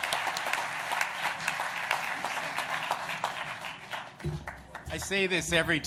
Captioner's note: applause